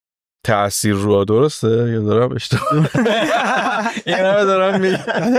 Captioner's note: laughs